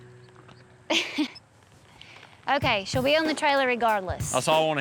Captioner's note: chuckles